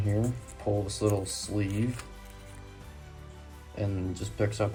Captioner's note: plastic sleeve makes noise